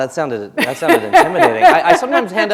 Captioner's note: chuckle